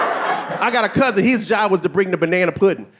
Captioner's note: audience laughing